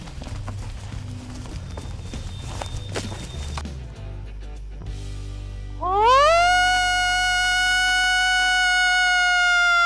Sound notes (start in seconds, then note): 5.9 howling